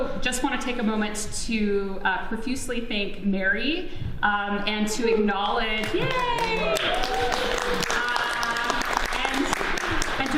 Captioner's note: audience applauds, exclaims